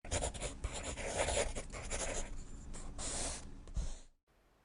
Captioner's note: drawing Sound